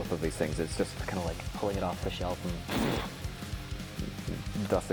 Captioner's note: blows